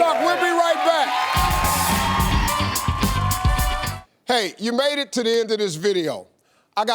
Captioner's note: audience cheering; upbeat music